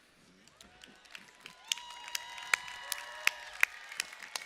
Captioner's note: cheering